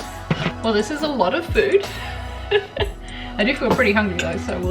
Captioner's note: chuckles